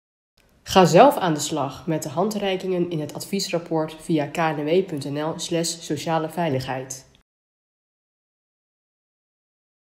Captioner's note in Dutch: Voice-over